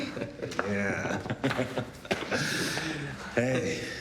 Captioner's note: all laughing